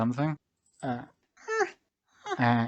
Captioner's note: whines